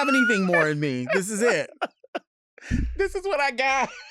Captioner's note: laughing